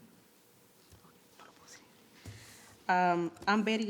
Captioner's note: speaking in foreign language